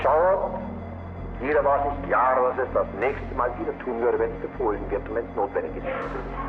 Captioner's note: Himmler continues speaking German